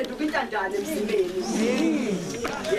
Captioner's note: people morn loud